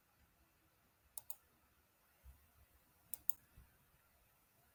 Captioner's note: mouse clicks